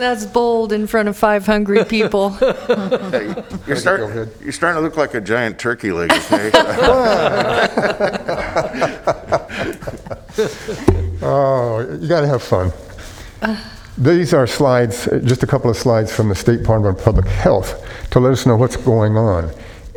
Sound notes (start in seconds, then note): 12.0 laughter